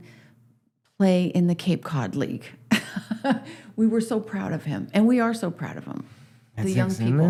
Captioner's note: laughs